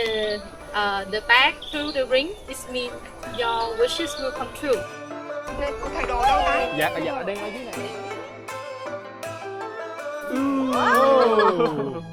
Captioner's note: laughing